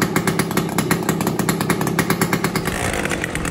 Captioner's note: engine sound